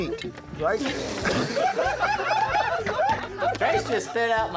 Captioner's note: laughter